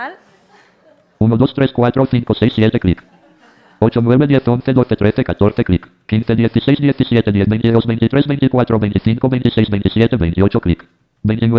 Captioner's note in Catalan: veu robòtica conta números